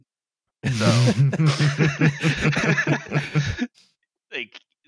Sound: laughter

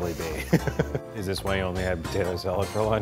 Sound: laughing

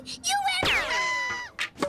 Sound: screams

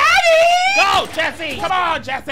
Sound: guns blasting

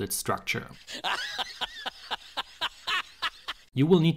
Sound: lion laughs

